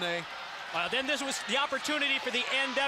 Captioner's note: crowd chatter